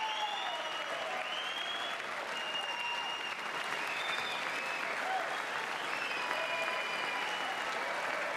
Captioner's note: applause